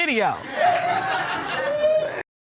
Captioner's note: audience laughs